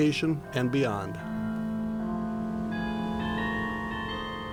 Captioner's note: bell tolling